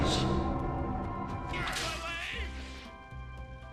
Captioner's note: grunting